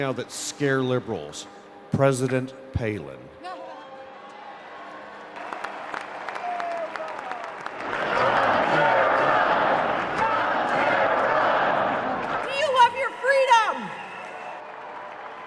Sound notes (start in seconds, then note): 4.3 audience cheering; 8.3 crowd